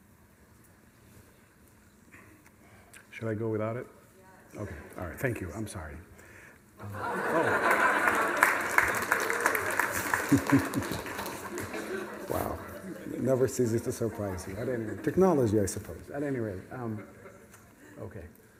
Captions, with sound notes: Should I go without it? Yes. OK. All right. Thank you. I'm sorry. [CROWD GASP] Oh. [LAUGHTER, APPLAUSE] Wow. It never ceases to surprise me, technology, I suppose, at any rate. OK.